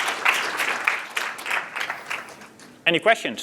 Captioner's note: applause